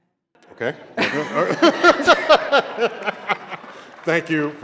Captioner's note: laughter